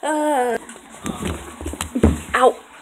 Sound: falling noises, clanking followed by "ow."

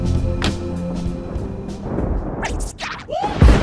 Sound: car door slams; R&B music

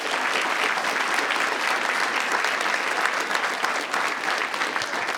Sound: audience applauding

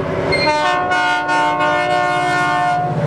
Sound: the locomotive horn sounds

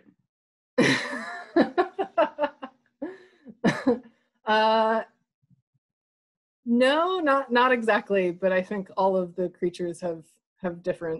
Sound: laughs

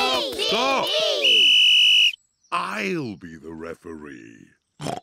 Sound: blows whistle; snorts

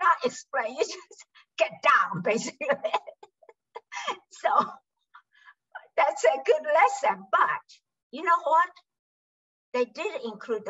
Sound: laughs

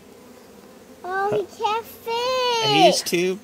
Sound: insert iteration number 27 of giggle track

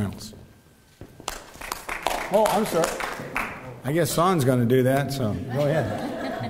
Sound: applause

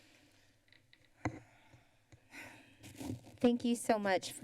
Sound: exhales

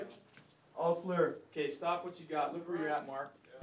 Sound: voiceover

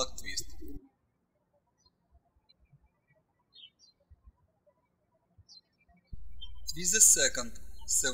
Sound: birds chirping

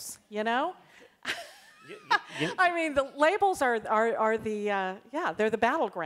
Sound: laughs

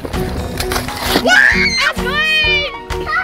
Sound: screaming

